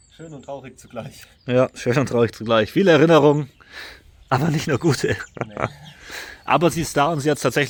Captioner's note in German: schnauben